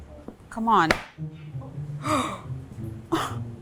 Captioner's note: gasps